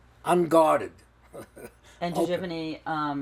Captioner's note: laughing